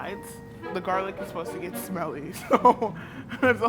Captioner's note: laughs